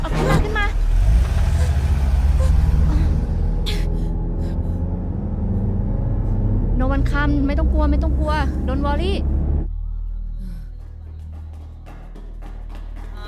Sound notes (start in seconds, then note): 0.1 Malay Language; 3.6 car Sound; 8.5 Malay Language